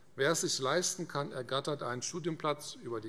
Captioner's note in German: none